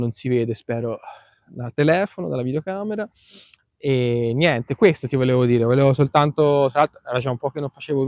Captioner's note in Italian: sbuffare